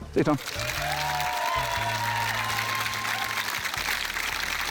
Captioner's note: applause